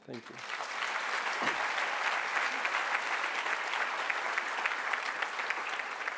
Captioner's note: applause